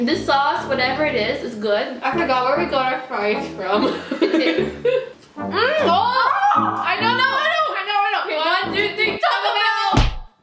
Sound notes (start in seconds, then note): 3.6 laughs